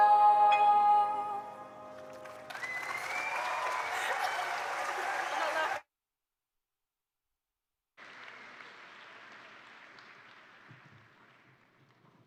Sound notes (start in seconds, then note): 1.9 attendees applaud; 2.0 attendees cheer